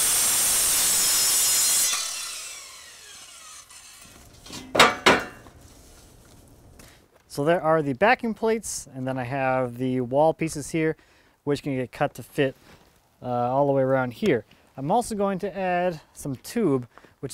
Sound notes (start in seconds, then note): 4.7 tapping